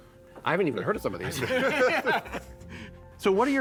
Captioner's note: laughter